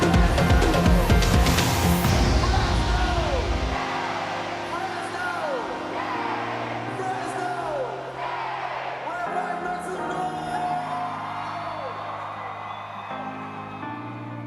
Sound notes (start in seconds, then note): 1.3 crowd; 3.7 crowd; 5.9 crowd; 8.2 crowd; 11.4 crowd cheering